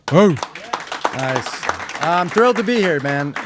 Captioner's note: everyone applauding